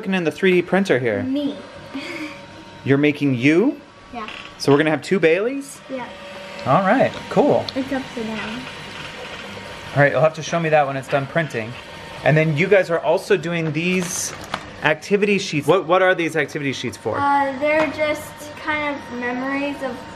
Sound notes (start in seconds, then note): 1.9 giggles; 6.3 printer whir's